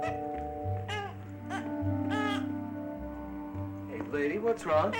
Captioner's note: baby fussing